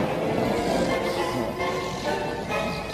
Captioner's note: snoring